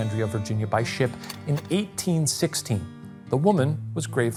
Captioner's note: projector clicking